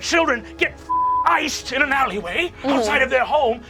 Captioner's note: beeping